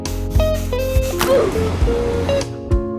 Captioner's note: rapid breathing; Roblox oof